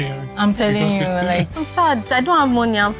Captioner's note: laughs